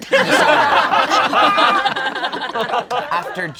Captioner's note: all laugh